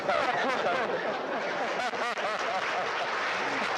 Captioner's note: audience laughing